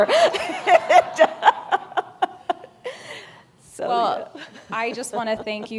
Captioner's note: laughs